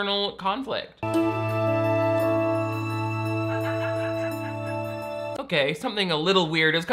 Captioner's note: dramatic symphonic music; laughs